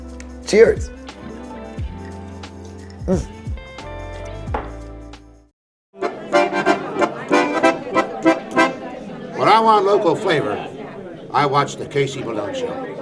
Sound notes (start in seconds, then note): 2.0 drink gurgling; 4.5 mug thudding softly; 6.0 people chattering distantly